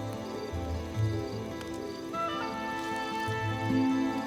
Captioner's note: owl hooting